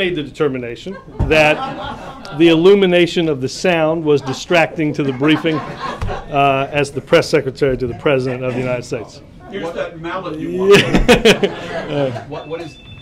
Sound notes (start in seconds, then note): 0.8 laughter; 10.6 laughter; 12.4 cell phone rings